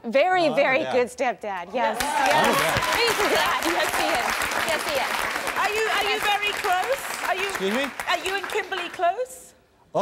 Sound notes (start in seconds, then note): 1.8 applause